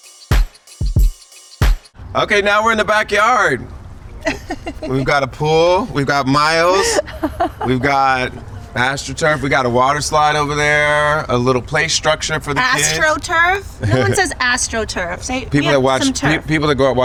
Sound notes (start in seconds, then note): 4.2 Chrissy laughs